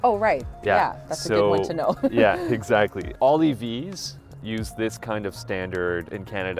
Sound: chuckles

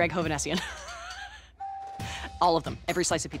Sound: Katie laughing

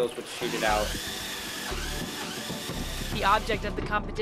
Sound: machine whirring

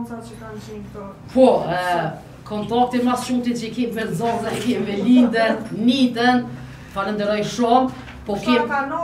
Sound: laughs

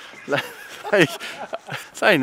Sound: laughs

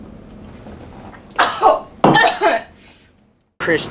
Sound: coughing

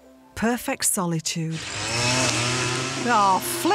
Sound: grass strimmer whirring

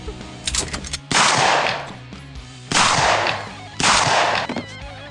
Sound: gun cocks and shoots

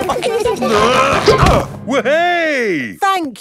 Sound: all giggling; grunting

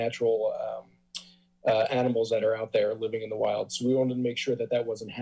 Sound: tsk

